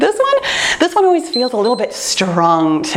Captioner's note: timer beeps